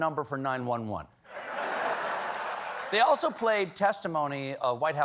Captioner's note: laughter